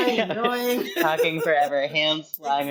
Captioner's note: laughs